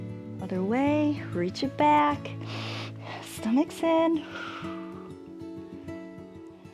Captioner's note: exhales